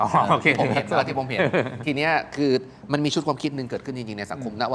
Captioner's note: laughs